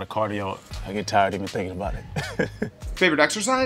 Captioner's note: chuckles